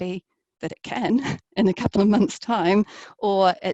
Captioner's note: laughs